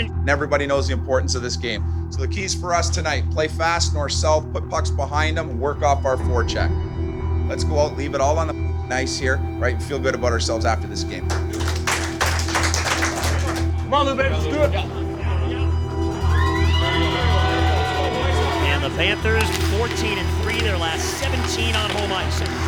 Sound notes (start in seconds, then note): 11.1 clapping; 13.7 indistinct Chatter